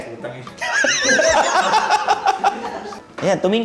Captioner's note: laughs